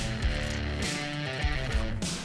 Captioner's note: group cheers